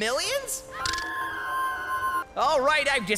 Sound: faint stock scream

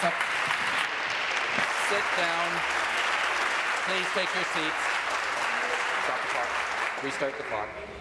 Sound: applause

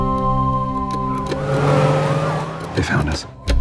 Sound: engine revving; police sirens

